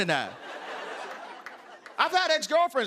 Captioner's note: laughter